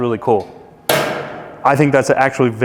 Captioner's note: metal door slams